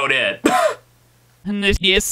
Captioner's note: scoffs